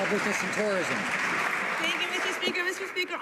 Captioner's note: some Applause